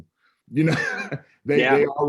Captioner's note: laughs